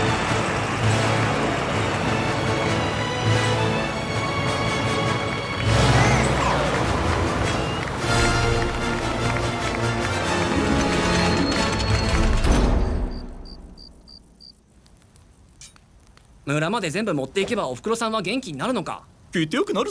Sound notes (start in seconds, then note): 5.5 truck horn warbles; 12.6 insects chirping; 16.5 all with Australian accents